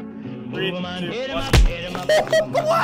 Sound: loud punch; laughter

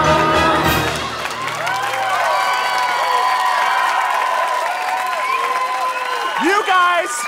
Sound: cheering

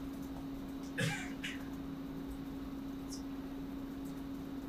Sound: man coughs

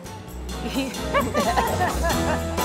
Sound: both laughs; upbeat music

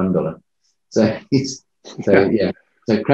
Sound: chuckles

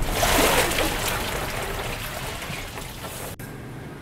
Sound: water splashing

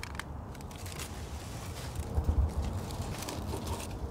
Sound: paper crumbling

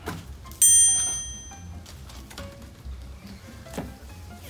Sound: bell dings; playful music

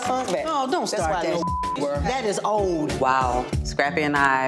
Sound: beep

